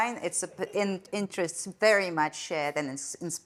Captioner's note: attendees laughing